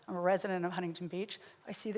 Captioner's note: none